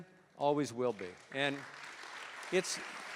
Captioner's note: applause